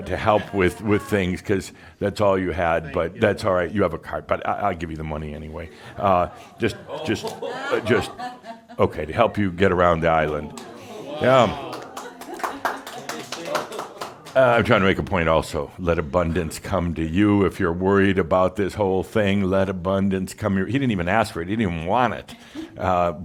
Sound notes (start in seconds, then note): 5.6 chuckles; 10.4 audience says “Ooh!” and some applause